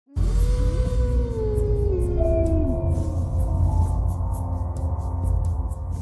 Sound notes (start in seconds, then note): 0.1 howling